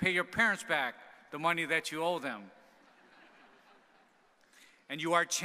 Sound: audience laughing

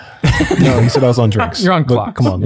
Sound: group laughs

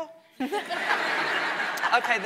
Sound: audience laughing

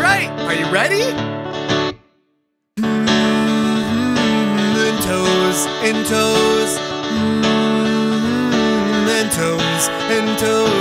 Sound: humming

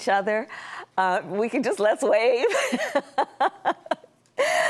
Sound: laughter

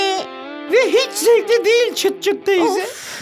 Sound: sigh

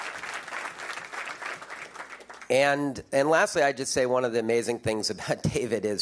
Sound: applause

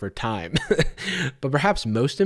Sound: chuckles

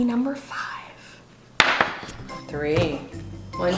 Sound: thud

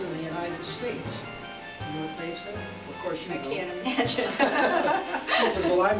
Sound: laughter

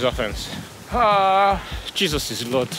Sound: ETHAN groaning

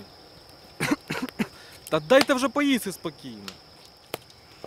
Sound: Urbanite chokes

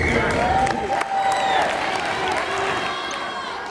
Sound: cheering

